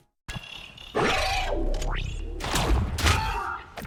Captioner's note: monster roars; gun shoots; monster screeches